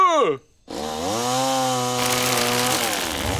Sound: saw whirring

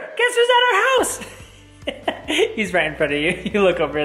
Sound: laughs

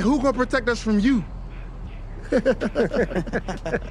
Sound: group laughs

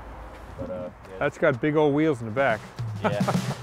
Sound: laughs

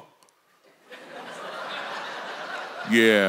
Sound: congregation laughs

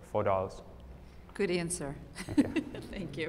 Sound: laughter

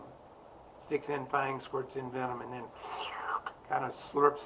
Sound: slurp sound

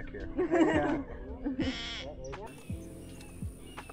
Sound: Snail Kite calling

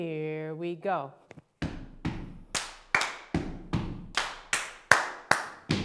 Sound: stomping and clapping

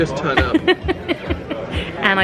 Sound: laughing

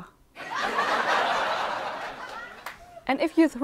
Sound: laughter sound

